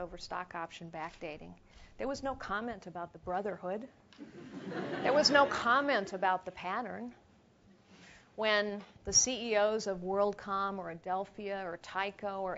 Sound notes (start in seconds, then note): 4.2 laugh